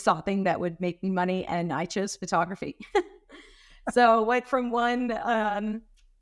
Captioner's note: giggling